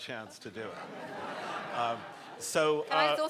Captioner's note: people laughing